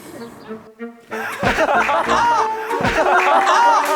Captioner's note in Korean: 퍼억